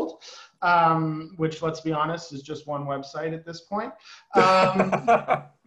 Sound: laughter

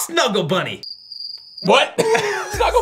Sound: crickets chirping

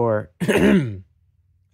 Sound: ahem

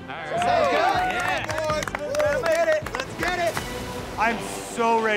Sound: cheers

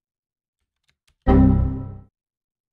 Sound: error sound

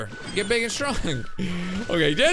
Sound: laughs

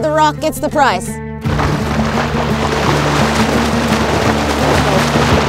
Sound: water splashing

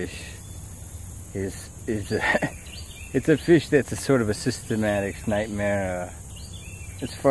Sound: laughs

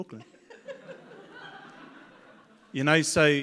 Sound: audience laughs

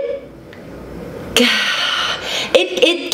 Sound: sighs

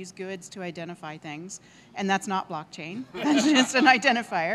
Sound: laughing

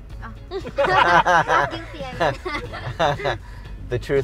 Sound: laughing

